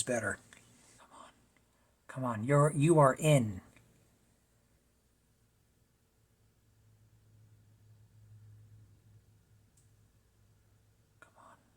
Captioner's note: whisper